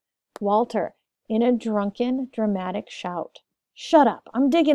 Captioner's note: in a drunken dramatic shout